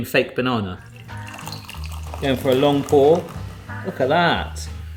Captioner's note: drink pouring